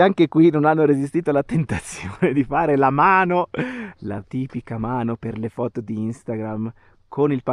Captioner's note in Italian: risate